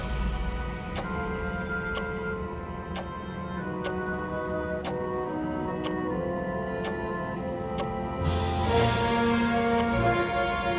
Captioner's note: clock continues ticking